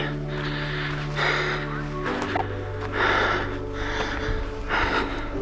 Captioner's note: heavy breathing